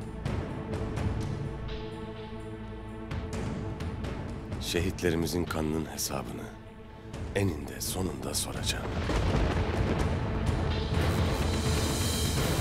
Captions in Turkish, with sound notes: (Müzik - Gerilim) Şehitlerimizin kanının hesabını... ...eninde sonunda soracağım! (Gök gürültüsü efekti)